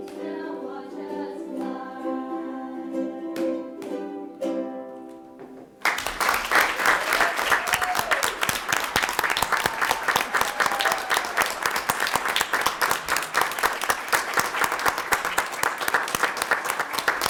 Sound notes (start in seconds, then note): 5.6 audience applauds